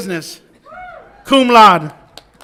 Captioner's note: audience applauds and cheers